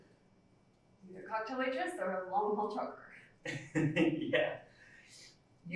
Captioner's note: laughs